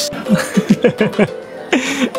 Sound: laughs

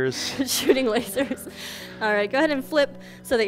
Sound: chuckles

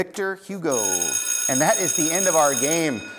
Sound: schoolbell rings

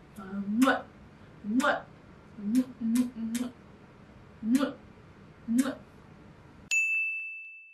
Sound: kisses

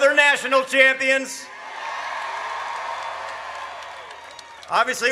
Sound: audience cheers

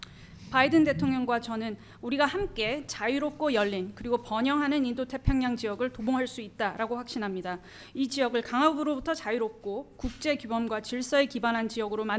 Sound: foreign language

